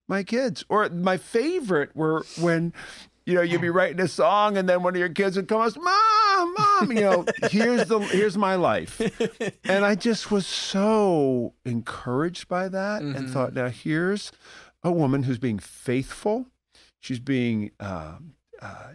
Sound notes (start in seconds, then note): 8.9 chuckle